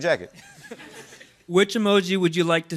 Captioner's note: laughter